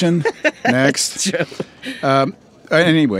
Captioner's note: laughs